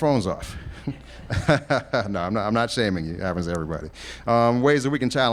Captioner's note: laughs